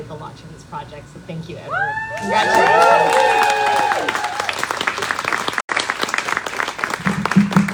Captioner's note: applause